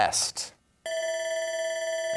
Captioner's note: bell ringing